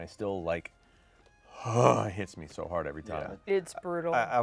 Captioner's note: grunts